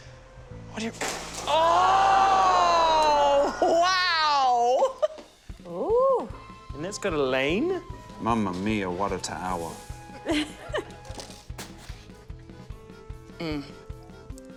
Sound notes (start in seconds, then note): 1.4 groans, exclamations; 2.4 laughs; 10.2 laughs